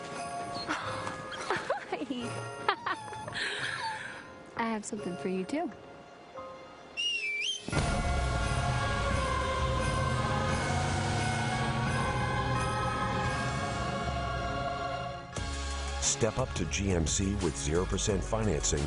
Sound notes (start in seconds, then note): 0.0 husband whistles; 1.2 wife laughs; 6.9 wife whistles